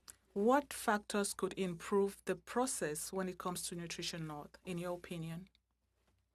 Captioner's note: speaking french